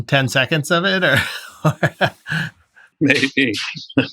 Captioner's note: laughter